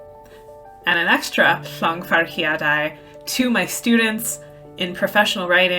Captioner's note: speaking welsh; speaking welsh